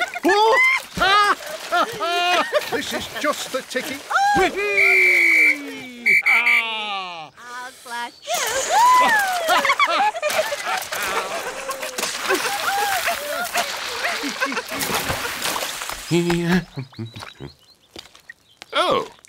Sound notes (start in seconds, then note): 0.9 laughter; 4.6 blows whistle; 8.3 laughter; 16.4 hums